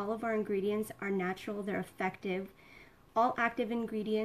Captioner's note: none